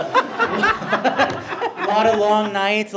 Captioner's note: board laughing